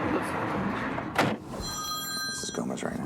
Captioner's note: phone rings